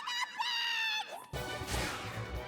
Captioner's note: whoosh!